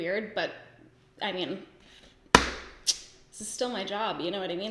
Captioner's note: sucks teeth